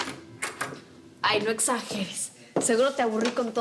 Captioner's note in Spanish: sonido al abrir la puerta